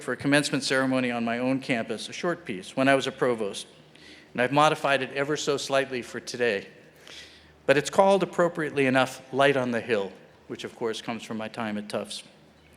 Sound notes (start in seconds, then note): none